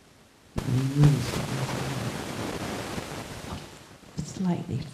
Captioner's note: static hissing